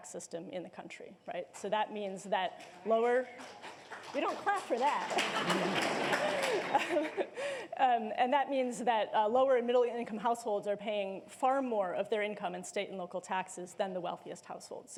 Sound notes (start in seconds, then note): 5.1 laughter